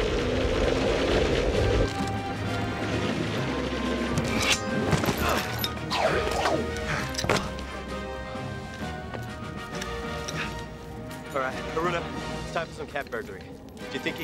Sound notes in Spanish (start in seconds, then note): 0.0 viento silbando; 5.4 William gruñendo